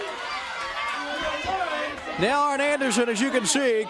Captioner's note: crowd chatter